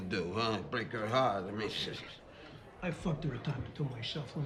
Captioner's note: none